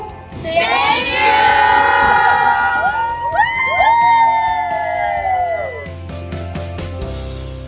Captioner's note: cheers in the background